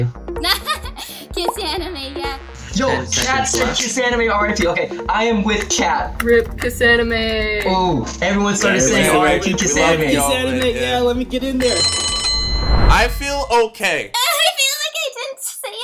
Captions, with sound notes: - (laughs) KissAnime, yeah. - Yo, Kat said, "KissAnime RIP." Okay, I am with Kat. - RIP KissAnime. - Oh, everyone started saying, "RIP KissAnime." - Yeah, let me get in there. (bell rings) - I feel okay. - I feel like I didn't say enough.